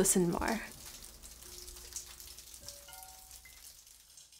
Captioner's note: dripping